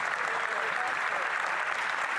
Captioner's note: applause